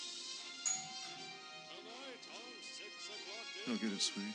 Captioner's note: doorbell chimes